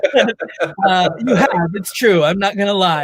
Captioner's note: laughs